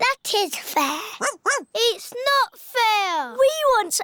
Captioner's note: barks